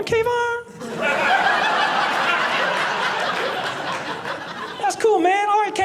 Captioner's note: audience laughing